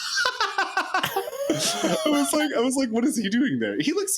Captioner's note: laughs